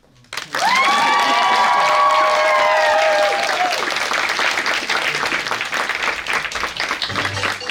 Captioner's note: applause